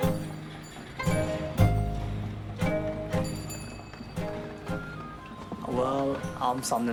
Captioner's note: slow music; bell rings